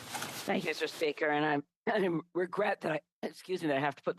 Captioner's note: speaking French